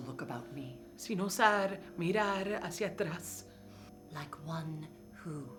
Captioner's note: speaking in foreign language